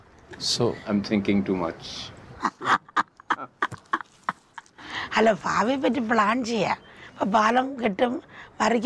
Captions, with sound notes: - So, I'm thinking too much ? (laughs)